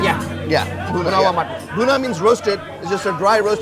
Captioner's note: speaks in Hindi